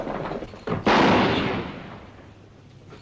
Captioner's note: gunshot